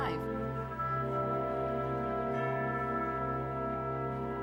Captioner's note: bells chiming